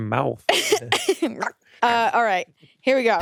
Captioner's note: laughs